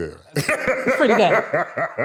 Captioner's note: laughs